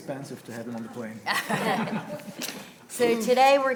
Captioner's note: panelists laughing